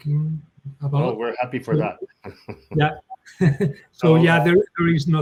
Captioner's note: chuckles